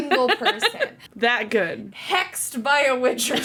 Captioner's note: laughs